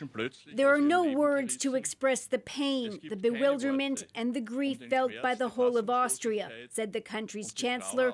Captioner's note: speaking alternate language